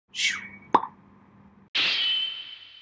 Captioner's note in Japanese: 効果音：シュッーーン パッ！